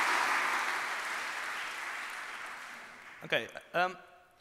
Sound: applause

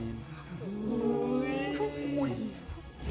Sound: scared

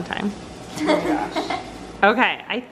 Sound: laughs

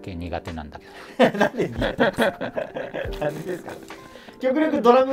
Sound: laughing

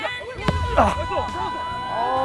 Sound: kicking

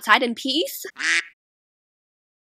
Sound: quack

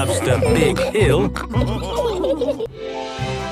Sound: all laughing

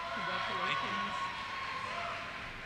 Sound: voiceover

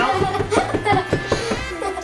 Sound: giggles

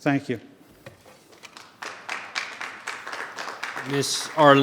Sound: audience applause

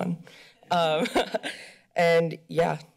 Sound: chuckles

